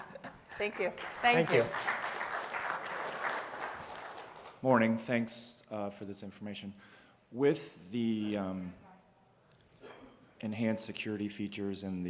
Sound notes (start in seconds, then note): 0.0 applause